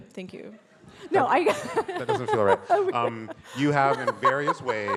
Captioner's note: laughs